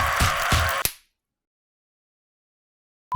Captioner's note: snap